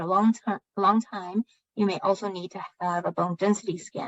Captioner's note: speaking chinese